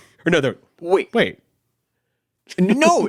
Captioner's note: chuckles